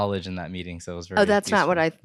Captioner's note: chuckles